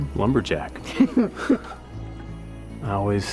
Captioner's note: chuckles